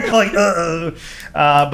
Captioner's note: laughing